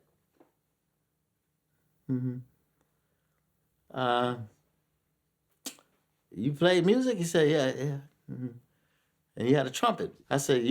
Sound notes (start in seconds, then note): 5.6 smacks lips